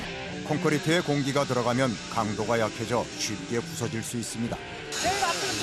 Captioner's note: vibrator